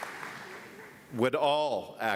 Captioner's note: applause